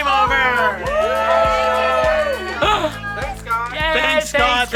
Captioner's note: cheering